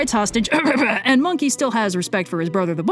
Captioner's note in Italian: Red tossisce per il disagio